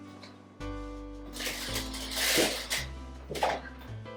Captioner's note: package crinkles